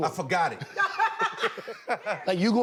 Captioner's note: laughter